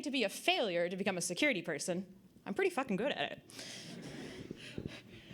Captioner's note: audience Laughter